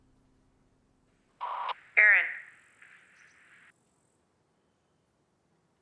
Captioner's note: static buzzing